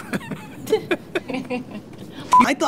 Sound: laughter

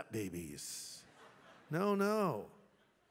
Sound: laughter

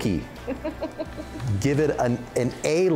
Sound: laughs

